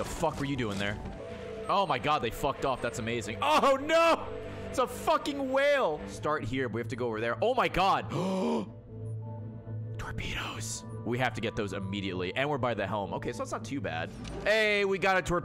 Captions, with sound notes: fuck were you doing there? Oh my God, they fucked off. That's amazing. Oh no! It's a fucking whale. Start here, and we have to go over there. Oh my God. (gasps) Torpedoes. We have to get those immediately, and we're by the helm. Okay, so it's not too bad. Hey, we got a